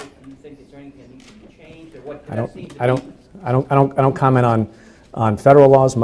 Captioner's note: stutters